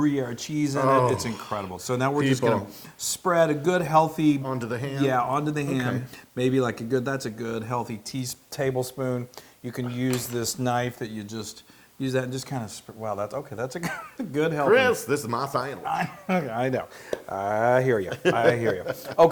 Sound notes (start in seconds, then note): 15.8 laugh